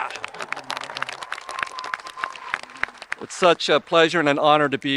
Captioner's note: audience applauding and cheering